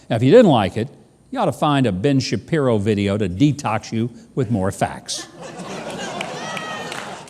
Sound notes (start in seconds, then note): 5.2 laughing; 5.9 clapping